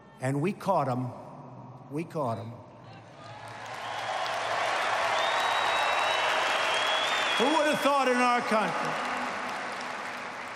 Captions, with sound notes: And we caught them. We caught them. (applause) Who would have thought in our country?